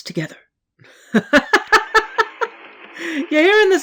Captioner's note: cackles